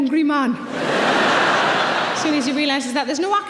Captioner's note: audience laughing